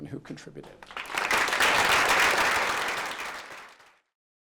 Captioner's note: applause